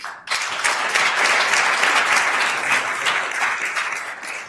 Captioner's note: attendees applauding